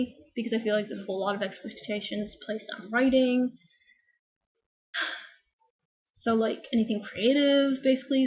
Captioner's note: sigh